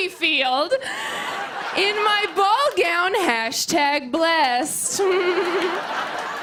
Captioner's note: laughter and applause; giggles